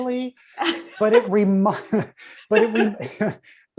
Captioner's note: both laugh